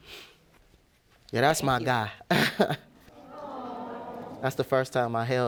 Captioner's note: chuckles